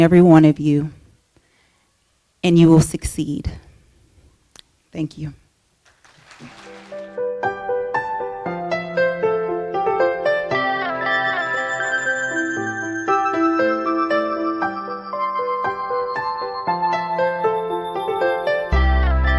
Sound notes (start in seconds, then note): 5.8 applause